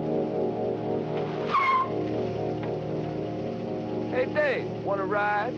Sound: car engine humming; brakes screeching

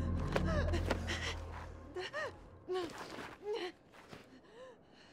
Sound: Perez gasping

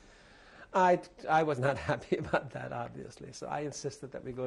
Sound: laughs

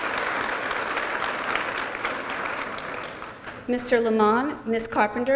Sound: applause

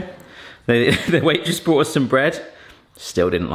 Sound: chuckles

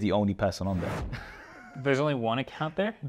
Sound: laughs

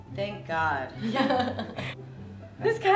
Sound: laughs

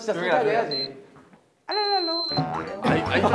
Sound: distracting them with noise

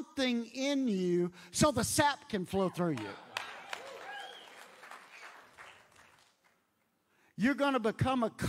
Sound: audience applauds

